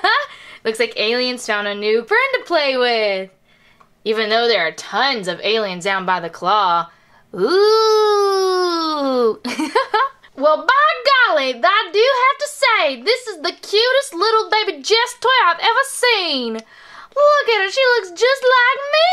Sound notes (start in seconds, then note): 6.5 imitates Alien's voice; 8.8 imitates Jessie's voice